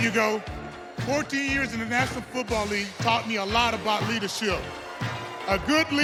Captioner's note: cheers and applause